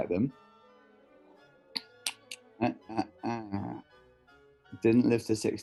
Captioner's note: clicks fingers